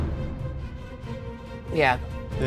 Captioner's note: none